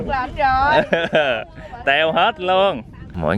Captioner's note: laugh